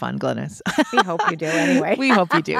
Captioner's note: laughs